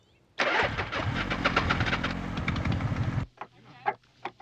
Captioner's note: engine revving; people chattering